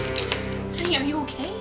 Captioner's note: clicking